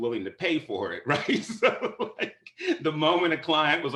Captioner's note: laughter